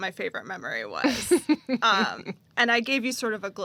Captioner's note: laughs